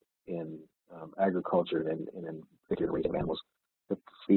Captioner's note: audio distorts